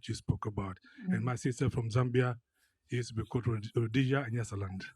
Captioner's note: speaks foreign language